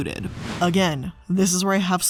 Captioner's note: air whooshing